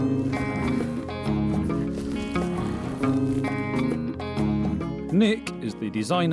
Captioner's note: grunting